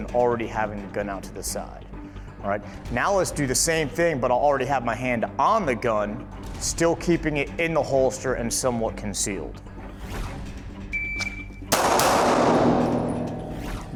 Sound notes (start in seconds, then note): 10.8 beeping; 11.7 gun shooting